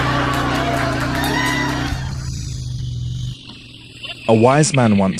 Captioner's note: laghter Applause; sound of outboard motor